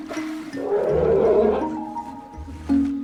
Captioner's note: roaring